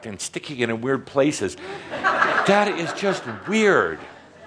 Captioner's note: some laughter